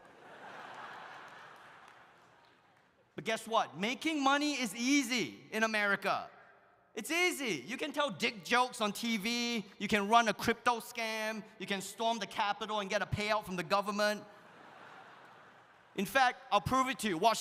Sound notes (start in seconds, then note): 0.0 audience laughs; 14.4 audience laughs